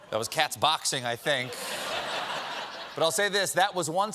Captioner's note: laughter